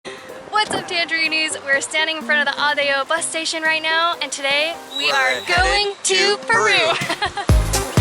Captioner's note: giggles